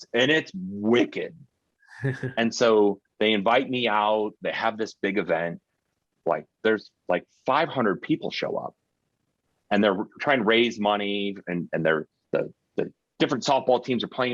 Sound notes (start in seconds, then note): 2.0 chuckling